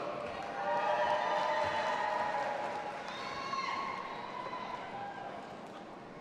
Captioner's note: audience applauding and cheering